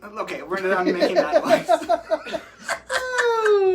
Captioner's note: chuckles